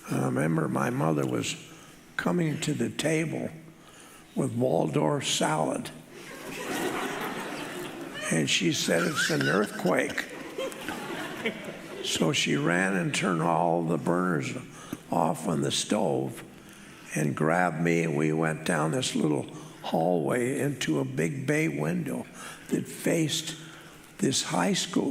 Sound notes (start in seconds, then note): 6.2 audience laughing